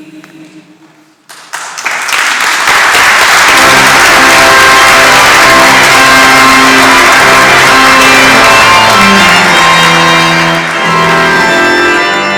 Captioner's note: applause